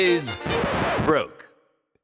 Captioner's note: record scratch